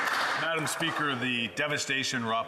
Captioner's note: applause